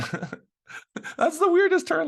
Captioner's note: laughing